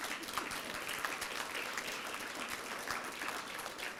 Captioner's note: applause